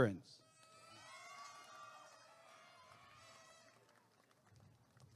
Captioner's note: applause and cheering